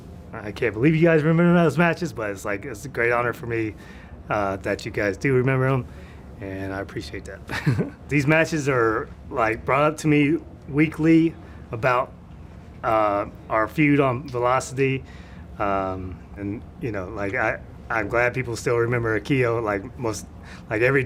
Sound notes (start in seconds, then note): 7.5 laugh